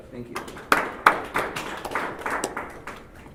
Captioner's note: applause